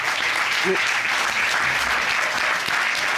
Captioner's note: applause